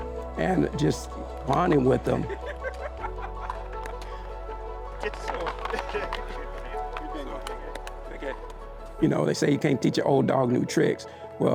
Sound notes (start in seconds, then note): 1.6 opponent laughs; 5.3 paddles clack